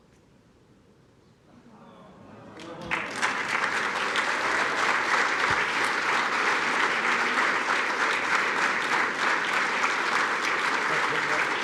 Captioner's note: applause